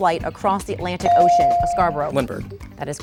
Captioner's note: bell dinging